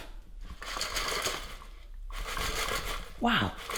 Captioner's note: rattling